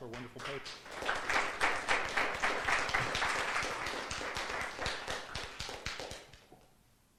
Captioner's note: applause